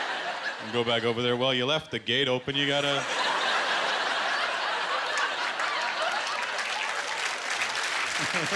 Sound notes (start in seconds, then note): 2.8 laughter; 4.4 applause